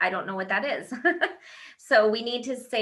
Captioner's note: laughing